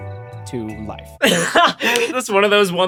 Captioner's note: laughs